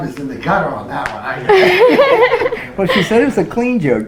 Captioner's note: laughs